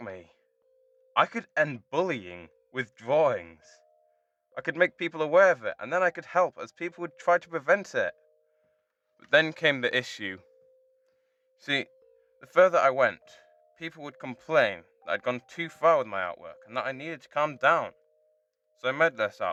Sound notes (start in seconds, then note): none